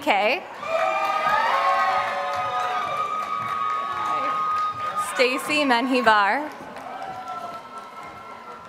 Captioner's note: applause